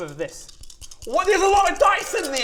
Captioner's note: oodles of dice being shaken